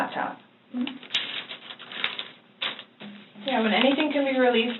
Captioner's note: paper rustling